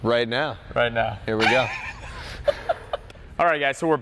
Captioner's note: laughs